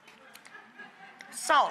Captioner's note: audience laughs